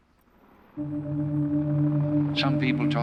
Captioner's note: helicopter whirring